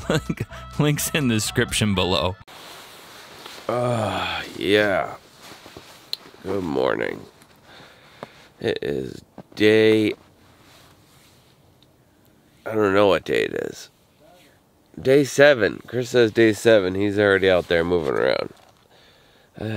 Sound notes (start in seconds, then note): 0.0 laughing; 2.4 rustling sleeping bag